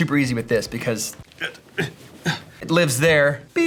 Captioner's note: grunting